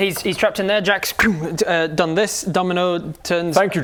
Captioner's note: pffwng